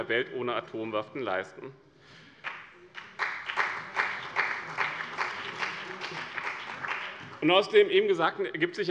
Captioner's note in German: Beifall bei dem BÜNDNIS 90/DIE GRÜNEN und der CDU